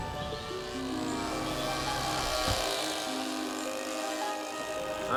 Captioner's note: model buzzing